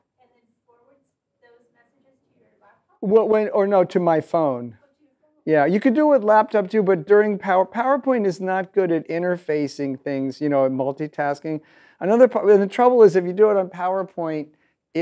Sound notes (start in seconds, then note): 4.9 voiceover